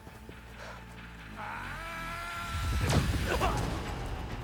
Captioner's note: scream